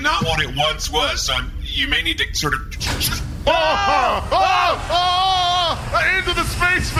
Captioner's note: hatch opens and casserole flies out